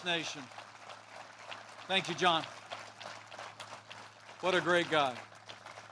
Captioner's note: applause